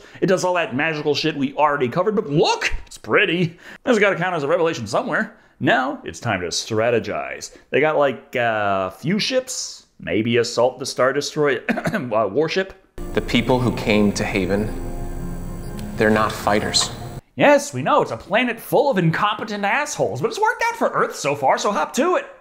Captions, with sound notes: It does all that magical shit we already covered. But look, it's pretty. This has got to count as a revelation somewhere. Now it's time to strategize. They got, like, a few ships, maybe assault the Star Destro- *cough* War Ship? The people who came to Haven, they're not fighters. Yes, we know. It's a planet full of incompetent assholes, but it's worked out for Earth so far, so hop to it.